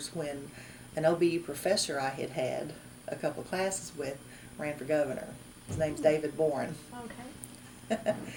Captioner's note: laughs